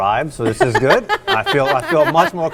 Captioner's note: laughing